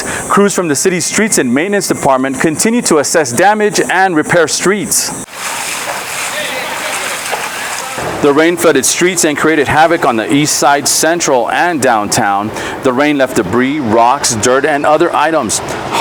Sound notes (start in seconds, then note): 5.2 water whooshing